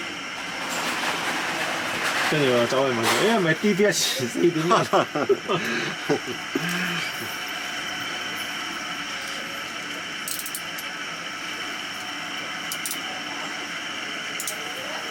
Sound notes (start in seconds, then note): 6.1 laughs